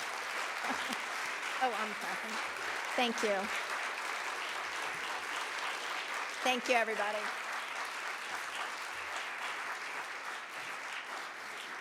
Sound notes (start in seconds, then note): 0.2 applause; 1.1 laughing; 4.9 applause; 8.7 applause